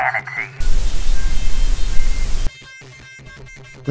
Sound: static noise

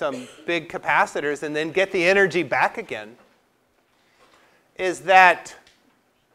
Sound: cough

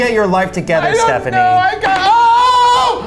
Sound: crying

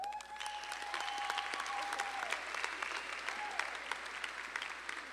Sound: audience applauding

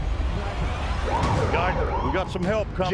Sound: police siren

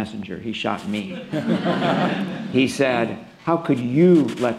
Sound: laughter

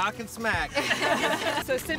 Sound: laughter

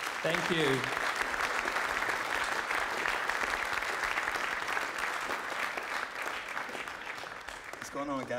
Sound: applause

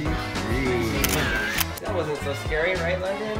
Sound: camera clicks

